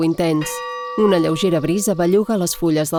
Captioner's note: chiming bells